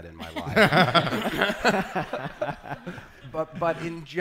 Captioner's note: laughing